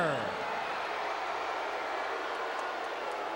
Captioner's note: crowd booing